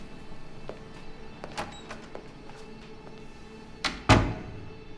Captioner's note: door opens, closes